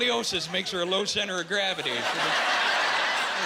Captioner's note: laughing